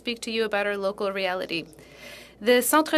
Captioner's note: speaking French